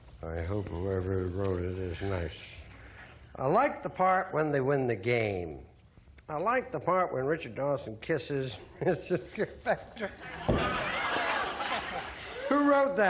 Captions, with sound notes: Unlikely that you're going to find four beers over here, but let's try. - But it's a good answer. - Yes. - Well, let's get off on the wrong foot, shall we? [laughter] Lots of food. - Food? Gargles with food.